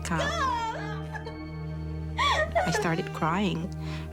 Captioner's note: shouting